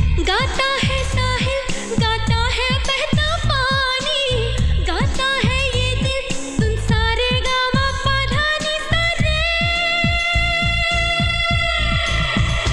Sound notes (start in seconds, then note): none